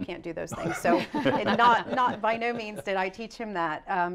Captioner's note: laughter